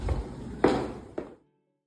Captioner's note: footsteps fade out